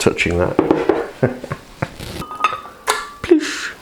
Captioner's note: laughs